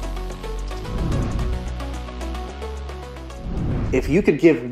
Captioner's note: upbeat electronic music; whooshing